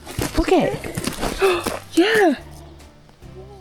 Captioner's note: gasps